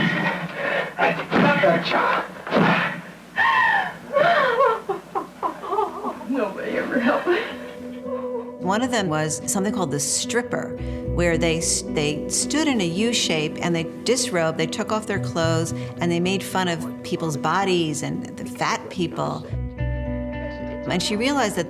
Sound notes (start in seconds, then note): 0.0 shouting; 0.3 woman panting, man shouting encouragement; 3.3 sobbing loudly